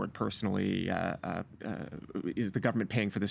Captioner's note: stammering